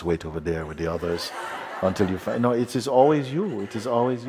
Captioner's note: laughter